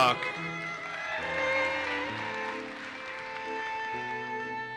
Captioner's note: audience cheers and applauses